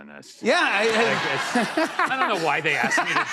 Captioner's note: laughter